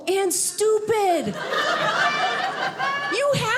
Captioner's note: audience laughing